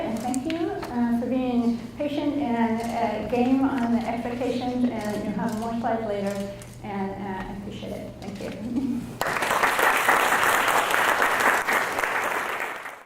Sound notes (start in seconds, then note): 9.2 audience applauds